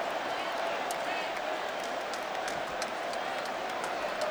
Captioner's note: crowd clamoring